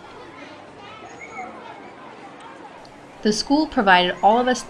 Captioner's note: crowd chattering